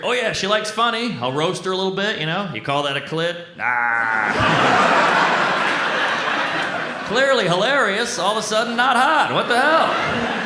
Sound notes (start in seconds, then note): 3.6 mock laughs; 3.9 audience laughs